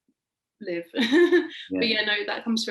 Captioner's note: laughing